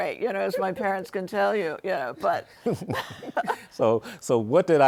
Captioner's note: laughs